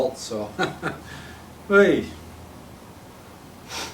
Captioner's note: chuckling